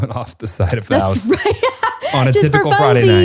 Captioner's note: laughs